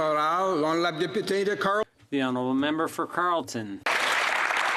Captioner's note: some Applause